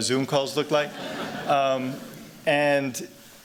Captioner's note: laughter